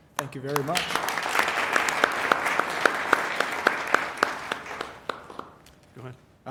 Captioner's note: applause